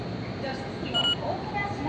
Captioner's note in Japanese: 交通系電子マネーの決済音